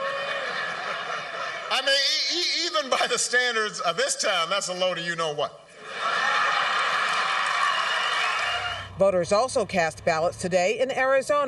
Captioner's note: laughter; cheering and applause